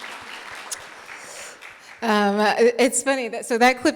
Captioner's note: audience clapping